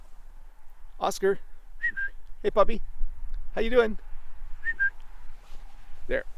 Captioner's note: whistles